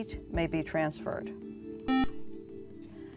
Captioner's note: buzzer